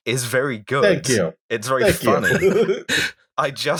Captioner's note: laughter